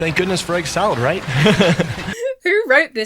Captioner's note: student laughs awkwardly